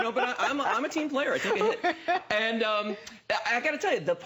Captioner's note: laughter